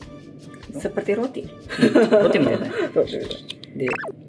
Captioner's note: laughs